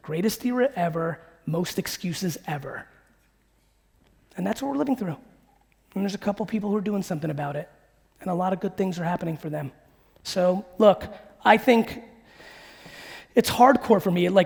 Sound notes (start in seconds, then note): none